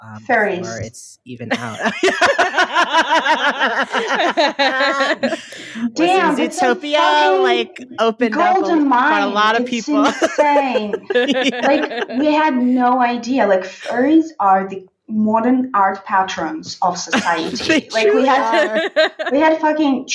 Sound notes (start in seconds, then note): 1.4 laughing; 17.1 laughing